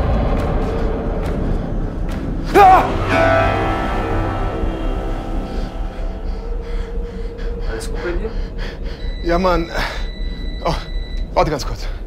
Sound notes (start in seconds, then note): 2.3 gasps; 10.0 phone rings